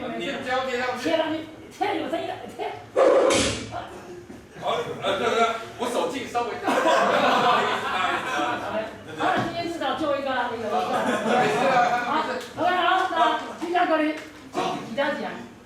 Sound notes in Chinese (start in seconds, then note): 2.9 呼呼啪聲